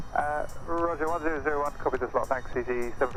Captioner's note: man On Radio